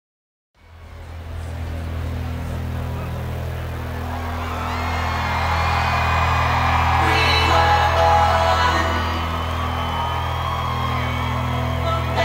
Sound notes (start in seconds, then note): 0.9 loud buzzing; 3.9 audience cheering